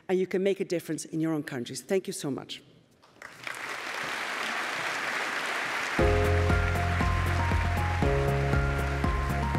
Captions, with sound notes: and you can make a difference in your own countries. Thank you so much. (audience applauding) (bright upbeat music)